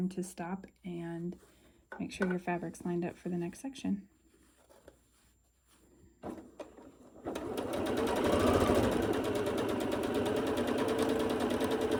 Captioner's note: adjusting fabric and sewing